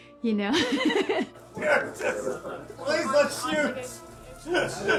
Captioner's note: laughing; laughs